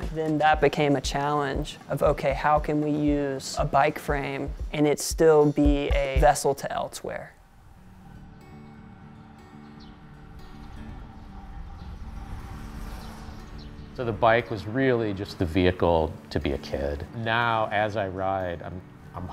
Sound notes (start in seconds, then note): 7.8 gentle music; 9.6 birds chirping